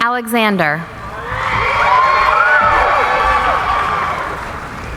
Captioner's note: cheering